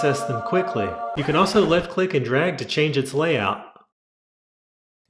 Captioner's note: record scratch